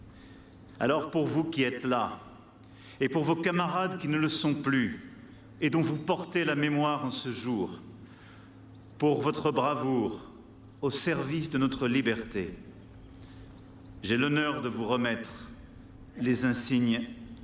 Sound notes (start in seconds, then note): 6.5 speaking french